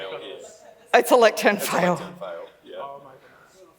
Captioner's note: laughs